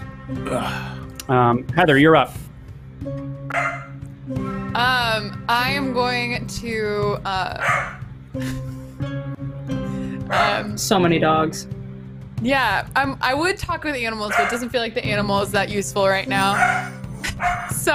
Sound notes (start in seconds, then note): 0.4 groans; 3.5 dog barks; 7.6 dog barks